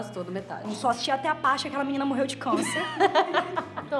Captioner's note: laughs